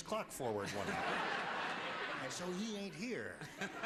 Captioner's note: audience laughter